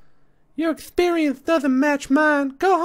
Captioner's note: high, lisping voice